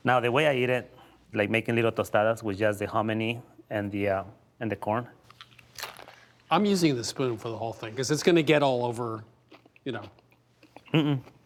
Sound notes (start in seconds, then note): 5.2 crunches loudly